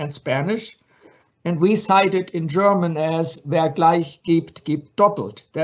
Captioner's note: speaks in foreign language